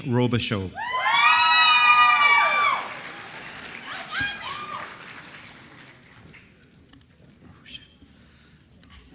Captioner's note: applause